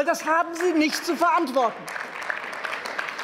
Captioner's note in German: Beifall